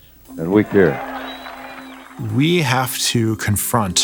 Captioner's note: audience cheers